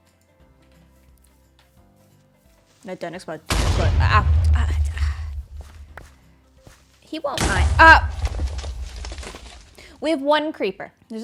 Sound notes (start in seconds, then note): 4.8 sighs; 7.4 explosion